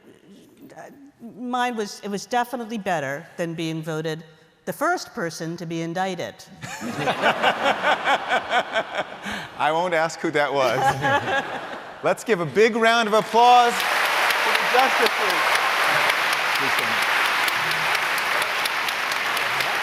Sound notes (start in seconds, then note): 6.6 laughter; 10.6 laughter; 13.0 applause